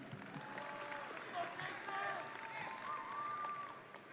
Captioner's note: audience cheering